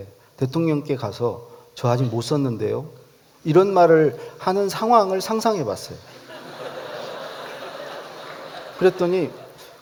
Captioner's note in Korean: 웃음